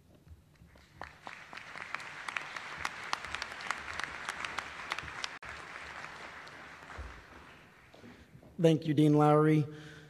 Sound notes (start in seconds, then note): 2.4 applause